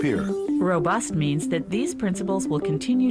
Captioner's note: voiceover